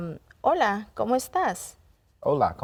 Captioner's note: speaking in Spanish